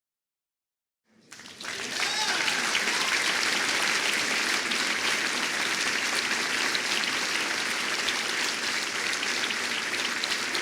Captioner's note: applause